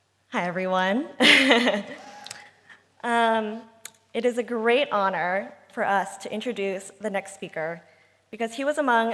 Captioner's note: laughs